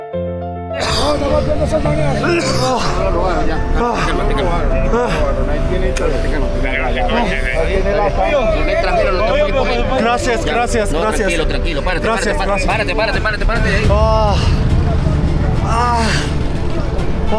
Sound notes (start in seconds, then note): 0.8 cough+ nausea